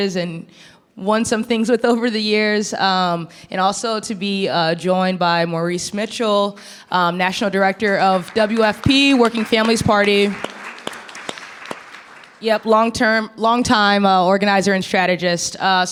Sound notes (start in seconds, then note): 10.1 audience clapping